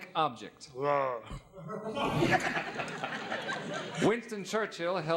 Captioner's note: audience laughing